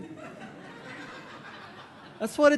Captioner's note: audience laughing